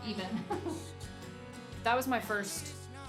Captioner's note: laughing